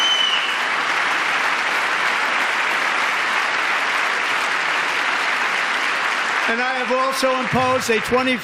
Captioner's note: applause